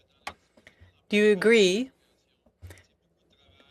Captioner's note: speaking French